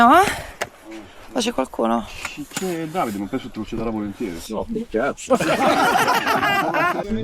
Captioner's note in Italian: risate